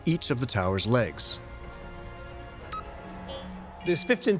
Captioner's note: computer chirps